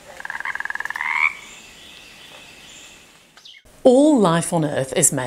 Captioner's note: birds chirping; frogs croaking